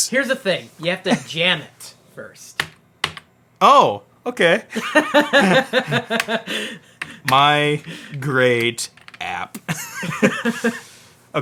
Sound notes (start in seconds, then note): 2.7 key clicking; 4.7 laughs; 9.5 laughs